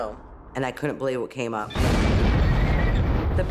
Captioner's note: loud rumbling